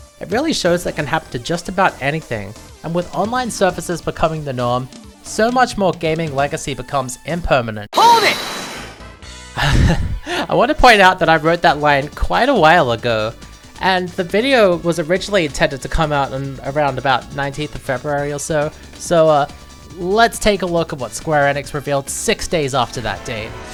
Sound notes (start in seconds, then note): 9.6 laughing